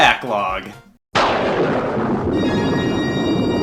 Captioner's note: thunder rumbling